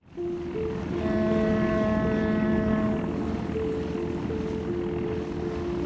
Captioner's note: ship horn blaring